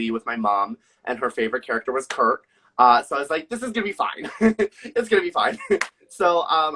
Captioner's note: laughs